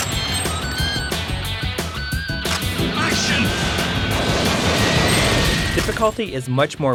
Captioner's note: game audio